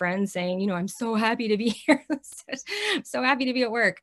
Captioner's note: chuckles